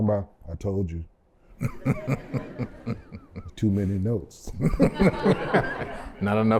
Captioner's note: laughter